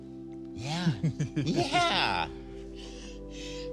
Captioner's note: laughs